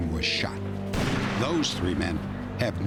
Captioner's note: gunshot